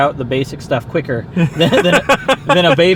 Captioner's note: laughs